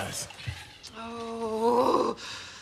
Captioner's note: Rose groans